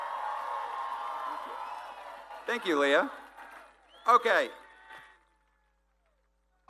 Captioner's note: applause